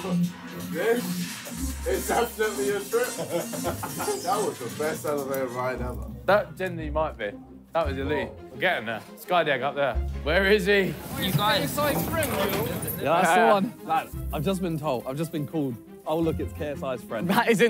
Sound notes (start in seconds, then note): 2.9 laughing; 11.6 passerby yelling